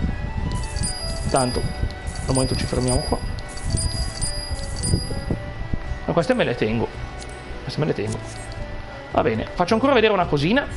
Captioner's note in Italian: campana